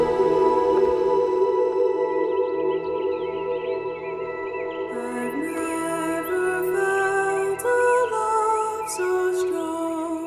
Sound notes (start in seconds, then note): 2.6 birds chirping